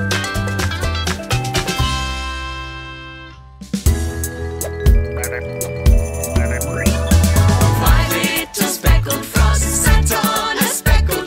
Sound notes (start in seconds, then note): 0.0 upbeat banjo music; 5.0 frog ribiting